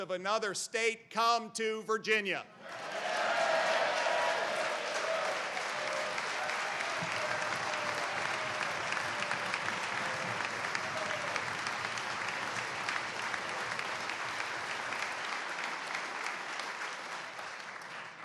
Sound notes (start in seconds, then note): 6.4 cheers and applause